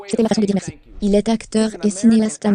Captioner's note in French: whooshing